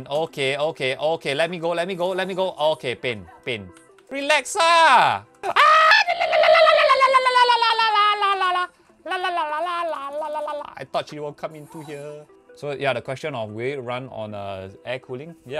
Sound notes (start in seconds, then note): 5.5 tribal screaming